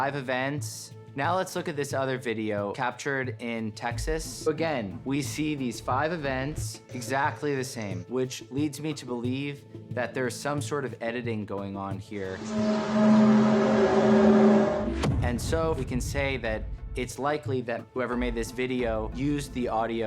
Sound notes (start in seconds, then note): 12.4 groaning sound